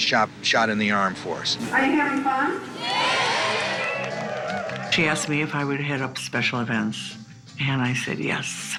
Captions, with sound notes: is a great big shot in the arm for us. - Are you having fun? - [Crowd] Yeah! - She asked me if I would head up Special Events.